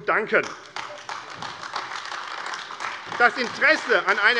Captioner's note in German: Beifall AfD